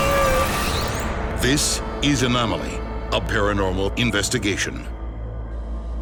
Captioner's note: voiceover